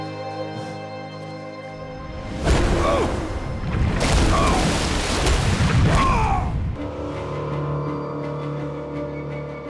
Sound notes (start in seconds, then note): 2.1 grunting; 3.6 groaning